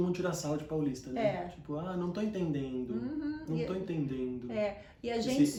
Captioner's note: imitating the accent